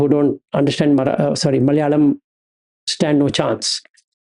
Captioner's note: Malayalam